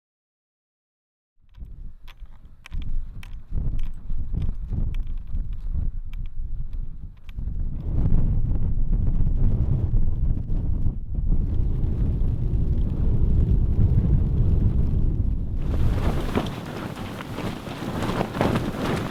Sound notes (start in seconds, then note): 1.8 wind howling; 2.3 skis clacking; 15.6 tent flapping